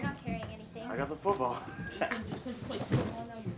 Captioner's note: laughing